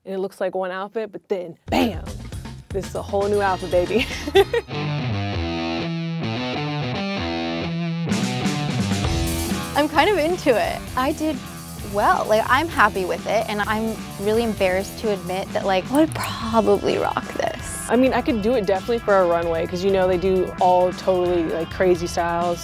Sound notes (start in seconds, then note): 3.9 laughing; 4.9 rock music